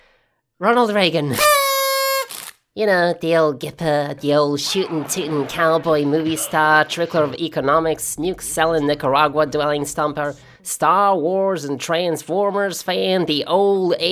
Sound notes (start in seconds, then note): 1.3 party blower; 10.6 accent getting increasingly American